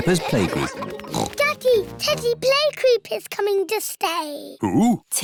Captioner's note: oinks